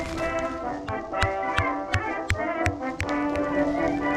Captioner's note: bash bash bash bash